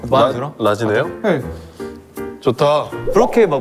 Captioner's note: hmm